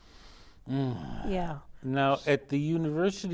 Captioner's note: groaning